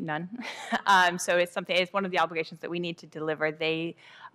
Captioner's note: laughter